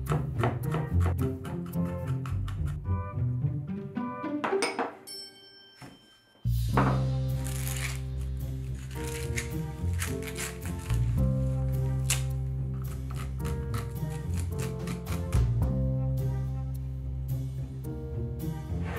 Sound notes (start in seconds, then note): 0.0 knife chopping; 7.2 corn shucking